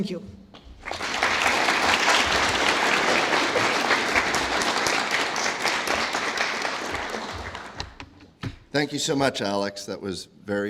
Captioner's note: applause